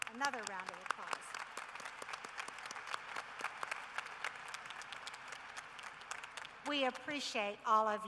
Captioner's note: applause